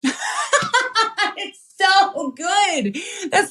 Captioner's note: laugh